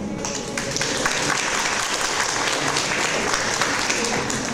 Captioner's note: audience applause